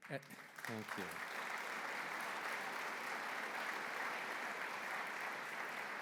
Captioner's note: applause